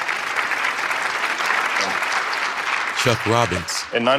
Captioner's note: applause